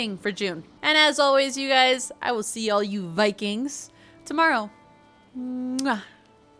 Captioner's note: kiss